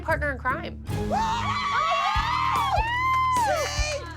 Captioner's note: cheering